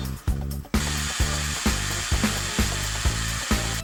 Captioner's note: motor buzzing